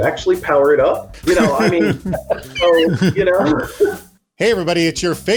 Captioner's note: both laughing